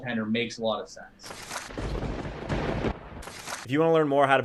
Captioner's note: lightning striking